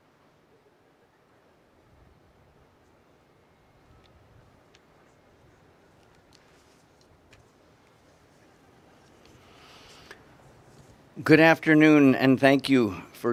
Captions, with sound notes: (wind rustling) - Good afternoon, and thank you